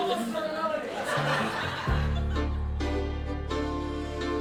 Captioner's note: crowd laughs